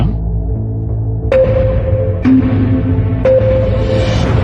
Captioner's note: countdown sound effects